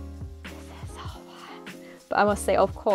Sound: whisper

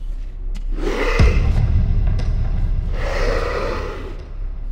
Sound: snarls

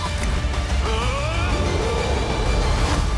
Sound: roars; screams; music fades

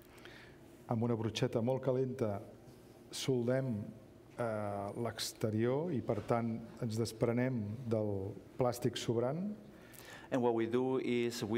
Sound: speaking catalan

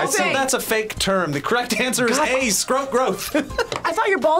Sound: laughs

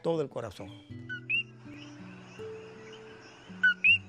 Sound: sound of a Coqui

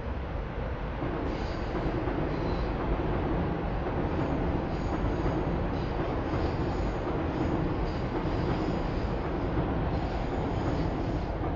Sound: train Noises

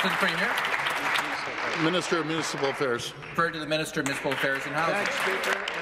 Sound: applause

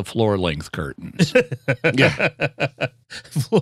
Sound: laughter

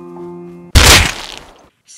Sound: bam

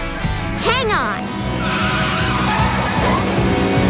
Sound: tires screeching

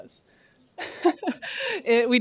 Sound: laughs

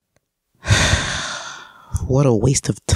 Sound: sigh

